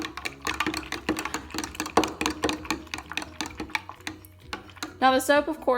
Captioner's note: clanking as the fork hits the side of the cup